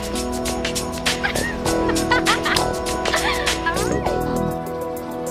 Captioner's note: laughter